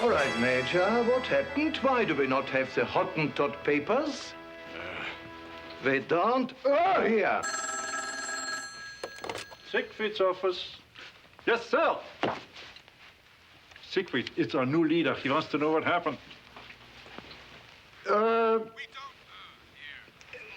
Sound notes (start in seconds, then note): 7.3 phone rings